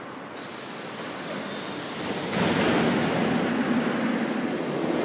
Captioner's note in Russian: закрытие дверей